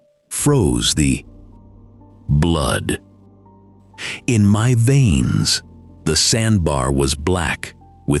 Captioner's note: breathe